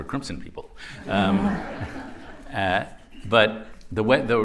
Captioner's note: laughter